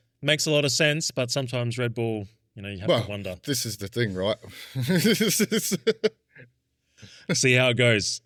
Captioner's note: laughs